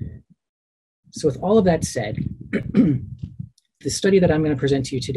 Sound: clears throat

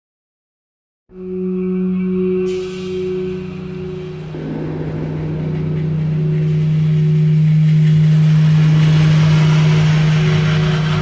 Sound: sound of ghostly mining site

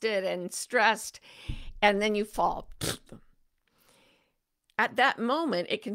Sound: imitates flopping sound effect

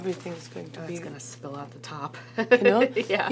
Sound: laughs

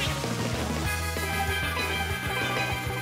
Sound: happy Harmony sounds

